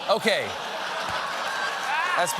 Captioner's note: laughter